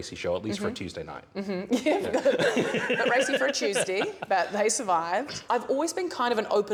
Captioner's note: laughs